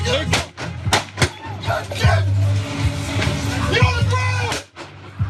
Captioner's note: gunshots